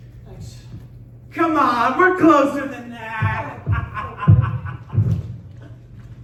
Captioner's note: laughing